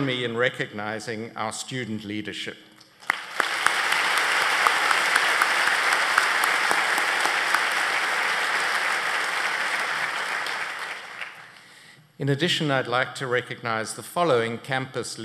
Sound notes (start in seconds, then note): 3.0 applause